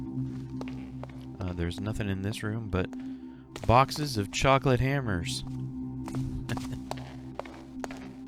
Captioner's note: laughs